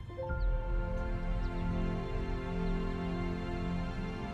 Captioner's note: birds singing